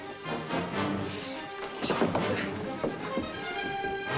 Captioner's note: none